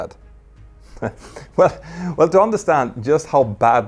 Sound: chuckles

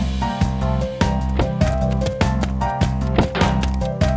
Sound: footsteps; door closing

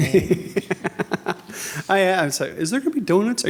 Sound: laughing

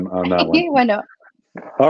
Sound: laughs

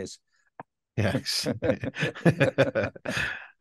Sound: laughing

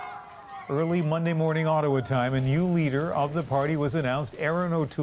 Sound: cheers and Applause

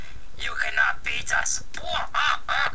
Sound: Creepy Nintendo Ad Voice; Maniacal Dalek Laugh

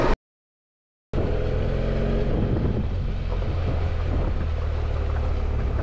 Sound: motorcycle engine roaring

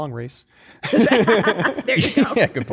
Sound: laughter

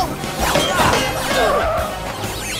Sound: tires screech; grunts, groans

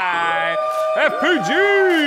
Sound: employees cheer

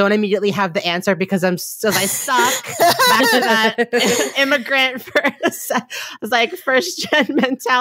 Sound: laughing

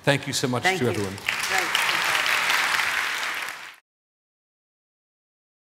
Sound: audience applauding

